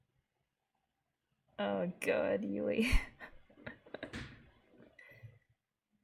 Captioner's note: laughs